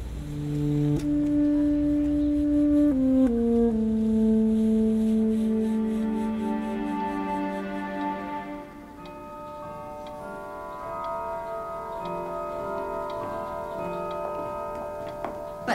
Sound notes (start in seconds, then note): 6.9 clock ticking; 8.0 bell tolling; 14.1 footsteps approaching